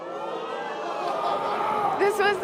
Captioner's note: audience gasping